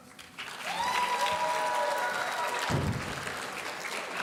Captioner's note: audience cheering